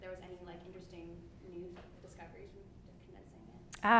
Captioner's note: speaks faintly